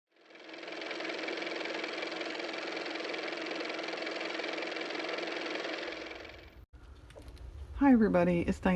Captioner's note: car motor